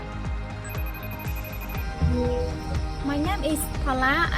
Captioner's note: phone rings